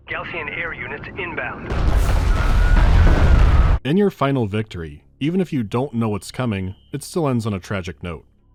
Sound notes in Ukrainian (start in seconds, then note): 1.6 бум